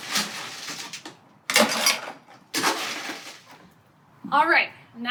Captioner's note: ice cube noises